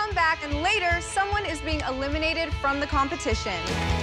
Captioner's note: applause